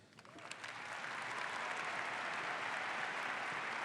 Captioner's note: audience applauds